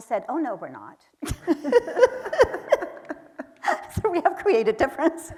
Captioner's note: laughing; audience laughing